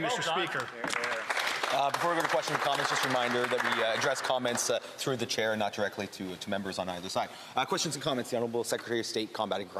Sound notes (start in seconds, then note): 5.5 applause